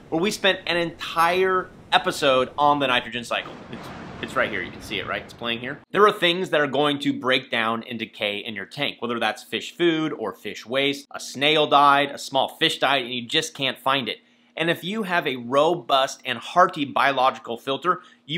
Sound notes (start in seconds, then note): 3.4 thunder rumbles